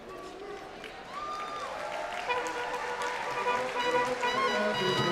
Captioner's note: applause, cheering; fanfare orchestral music